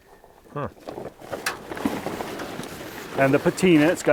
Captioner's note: gravel rustling